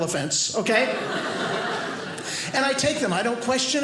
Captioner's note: audience laughing